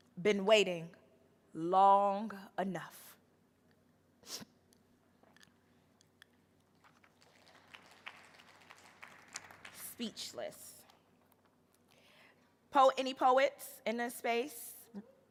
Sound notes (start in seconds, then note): 6.8 audience applauding